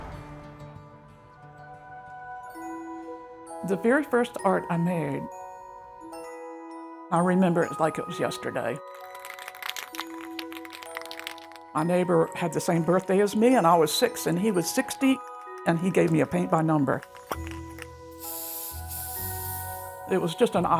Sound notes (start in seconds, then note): 2.8 light music continues; 8.8 can rattling; 19.3 light music continues